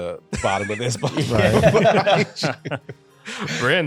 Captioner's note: laughter